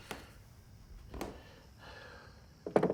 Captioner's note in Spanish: Jim suspira